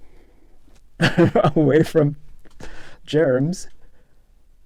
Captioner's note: laughter